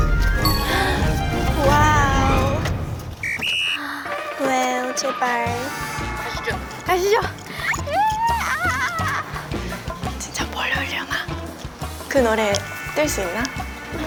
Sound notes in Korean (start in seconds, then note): 11.1 소곤